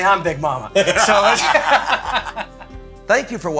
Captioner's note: laughing